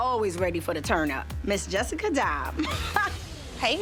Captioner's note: laughs